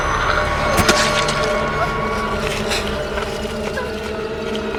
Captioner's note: flesh splats; tense music